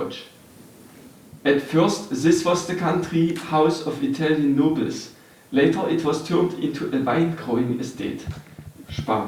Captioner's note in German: guter deutscher Akzent